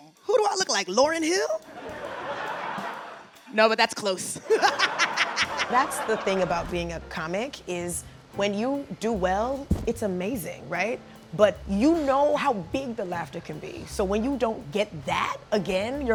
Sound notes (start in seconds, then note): 1.7 audience laughing; 4.4 all laughing